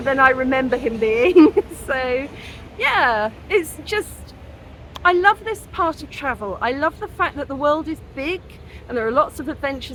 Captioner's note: laughing